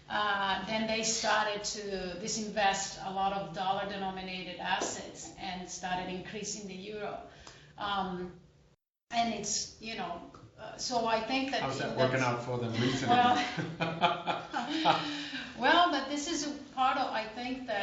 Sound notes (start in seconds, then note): 9.6 laughter